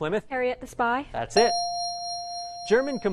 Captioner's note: ding